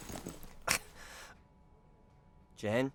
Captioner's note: thud; breathing in; gasp